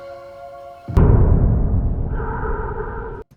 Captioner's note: Michael breathing